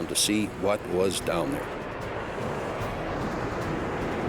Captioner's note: jet engine noises